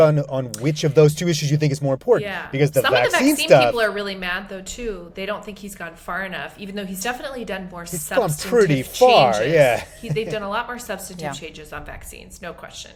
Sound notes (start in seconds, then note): 11.5 chuckles